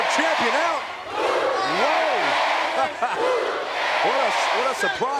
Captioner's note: laughing